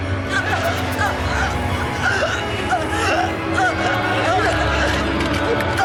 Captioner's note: Nicolette gasping over tense and menacing electronic music